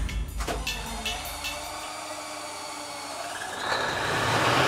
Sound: engines starting

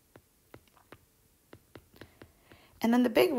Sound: digital pen tapping noise

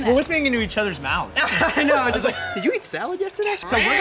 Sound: laughs

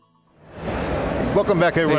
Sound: crowd bustling

